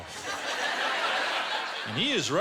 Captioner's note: laughter